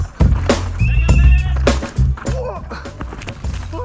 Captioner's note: whistle chirping; crying out